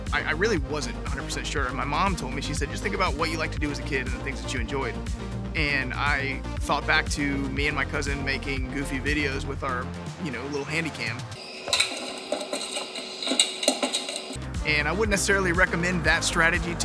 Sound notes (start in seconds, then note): 11.4 feet clunking